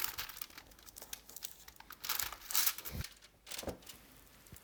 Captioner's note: aluminum foil rustling